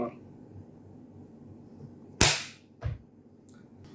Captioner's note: bang